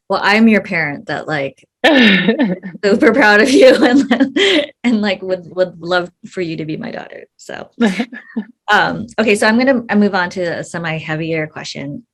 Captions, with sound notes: - Well, I'm your parent that like, both are proud of you (laughs) and would love for you to be my daughter. (chuckles) Okay, so I'm gonna move on to a semi heavier question